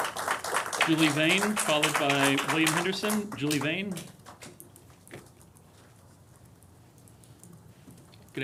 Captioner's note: applause